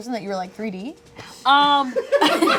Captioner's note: laughter